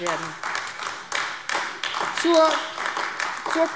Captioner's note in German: Beifall AfD